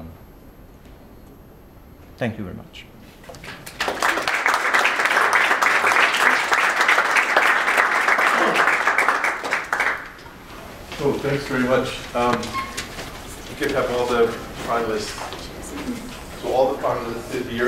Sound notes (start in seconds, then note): 3.4 applause